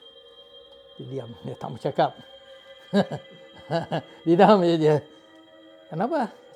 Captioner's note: chuckle